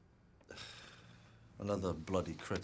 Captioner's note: Gordon sighs; Rob sighs